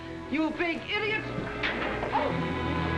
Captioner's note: dramatic music; banging against cell door